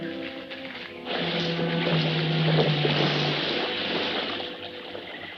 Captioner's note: water splashing